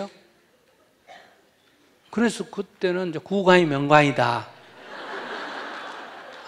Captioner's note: audience Laughter